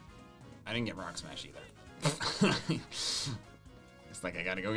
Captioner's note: laughs